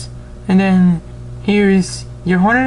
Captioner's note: none